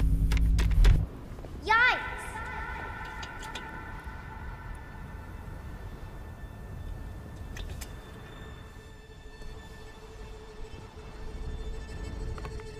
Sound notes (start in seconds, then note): 1.6 echoing